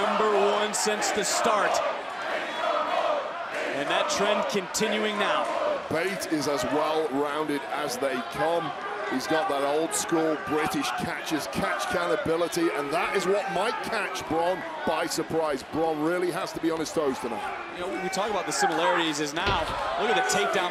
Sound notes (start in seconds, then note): 2.5 crowd cheers; 6.2 crowd chants "big strong boi"